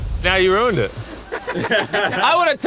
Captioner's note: laughs